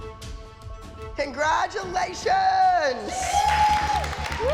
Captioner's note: cheering